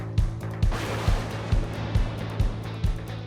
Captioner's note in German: krachender Donner